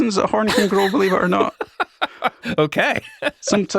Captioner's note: laughs